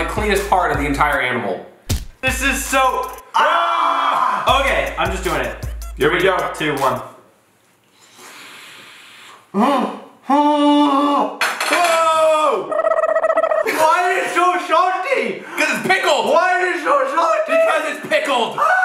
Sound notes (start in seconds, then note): 3.5 shouting; 10.4 moaning